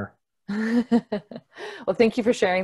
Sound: laughs

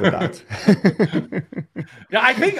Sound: both chuckling

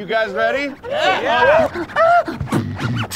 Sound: crowd; beatboxing

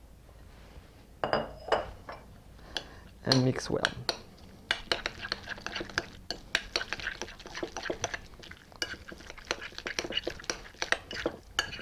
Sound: mixing sounds

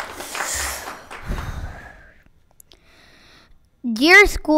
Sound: breathes deeply

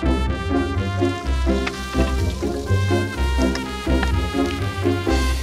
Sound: sizzling

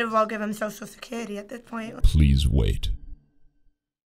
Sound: voice-over

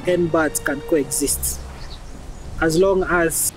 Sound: metal footsteps

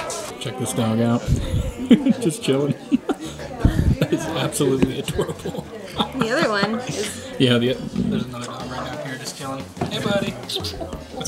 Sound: smooch smooch

